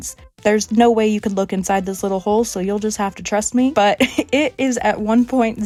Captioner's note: laughing